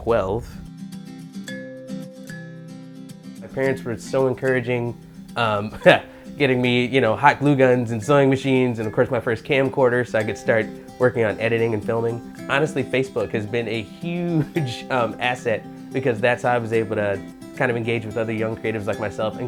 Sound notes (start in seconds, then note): 0.2 gentle music; 5.6 laughing